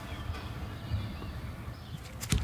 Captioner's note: birds chirping